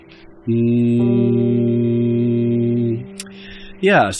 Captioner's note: low-tone humming